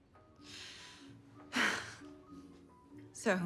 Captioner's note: chuckles